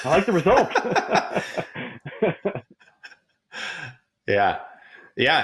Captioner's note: both laughing